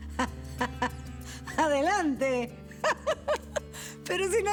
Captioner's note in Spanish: risas